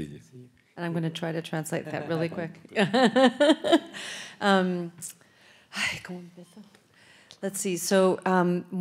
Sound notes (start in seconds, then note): 5.2 laughs; 6.2 speaks in Spanish